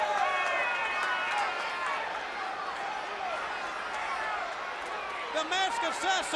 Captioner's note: crowd chatter